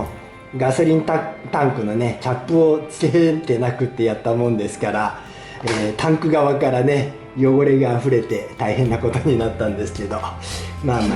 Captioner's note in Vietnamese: cười